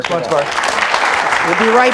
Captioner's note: audience applauds